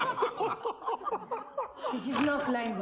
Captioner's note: laughing